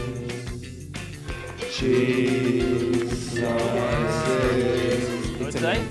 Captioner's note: sing; cow moos